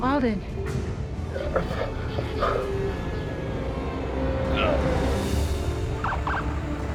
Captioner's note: groaning; sirens